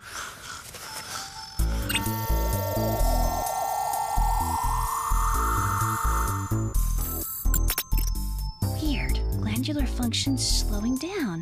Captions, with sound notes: You too, Theodore. But I'm the Soviet Union. You're taking a nap. [snoring] [buzzing]